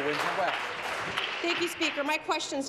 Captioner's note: applause